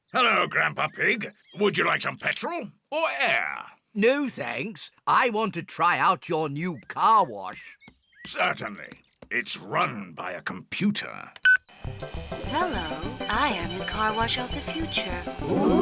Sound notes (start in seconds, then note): 11.4 beeps